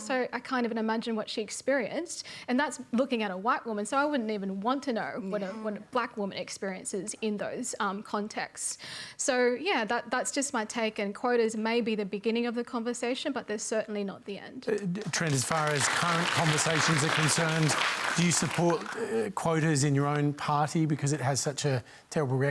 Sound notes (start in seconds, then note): 17.9 applause